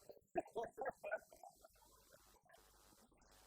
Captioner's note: laughing